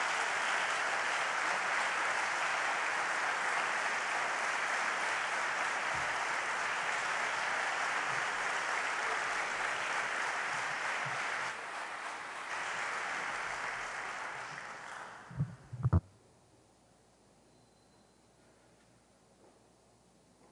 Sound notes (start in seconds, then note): 5.5 applause